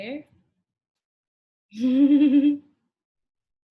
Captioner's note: giggles